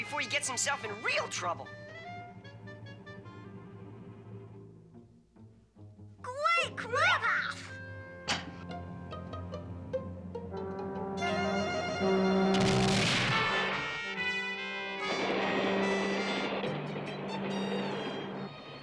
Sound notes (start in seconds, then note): 10.5 train horn blaring; 12.9 ominous music playing